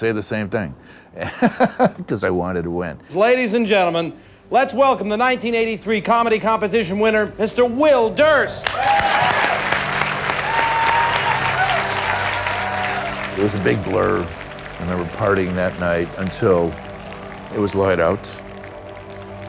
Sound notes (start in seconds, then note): 4.0 cheers and applause